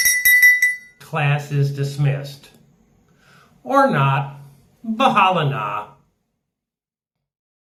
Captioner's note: rings bell